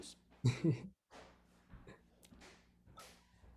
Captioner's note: laughs